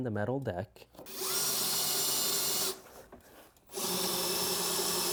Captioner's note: drill engine roaring